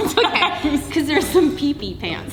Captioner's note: laughing